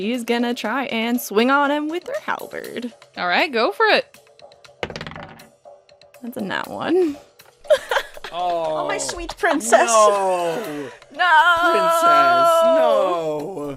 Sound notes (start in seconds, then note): 4.8 heavy dice thunks; 7.7 laughs